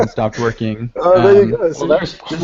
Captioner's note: laughter